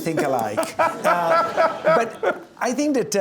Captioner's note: laughs